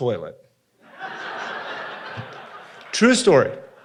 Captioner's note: audience laughing